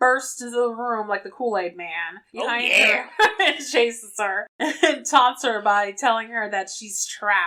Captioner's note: laughs